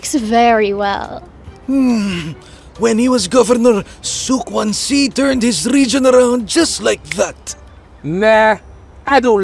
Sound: snap

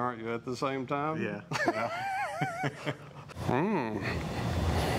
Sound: laughs

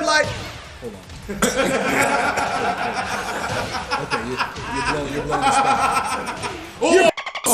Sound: laugh

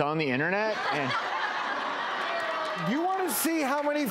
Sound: laughing

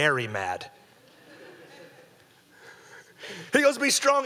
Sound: audience laughing

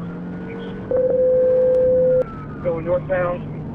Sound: beep

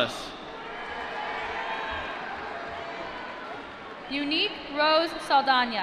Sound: applause

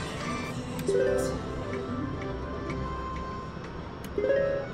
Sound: machine beeps

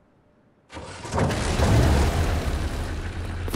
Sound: engine starts

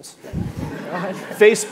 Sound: audience laughing

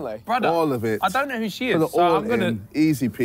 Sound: none

